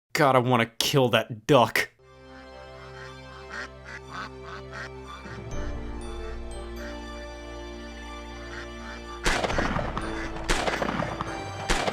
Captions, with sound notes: God I wanna kill that duck. (inspiring music) (ducks quacking) (gun shots)